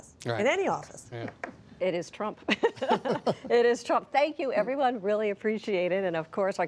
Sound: laughter

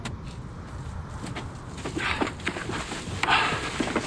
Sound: breeze

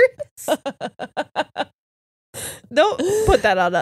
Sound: laughs

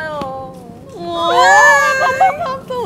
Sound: scream

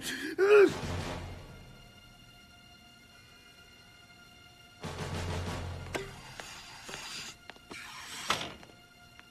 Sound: sneezes

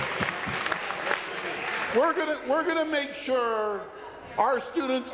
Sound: applause

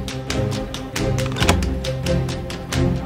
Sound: unlocks door

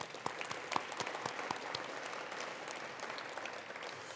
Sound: attendees applauding

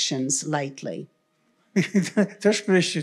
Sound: chuckle; foreign language

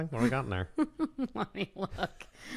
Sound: laughs

